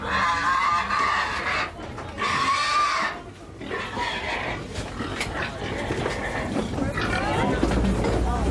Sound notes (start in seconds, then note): 3.6 pigs screaming